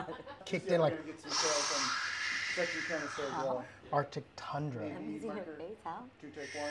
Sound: laughing; blowing

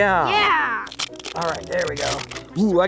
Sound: plastic ripping

